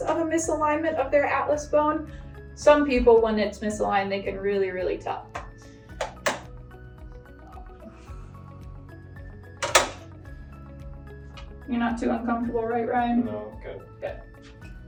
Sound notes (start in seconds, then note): 5.7 light upbeat music; 5.7 machine clicking; 14.6 light upbeat music